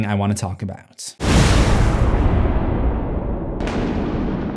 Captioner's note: cinematic impact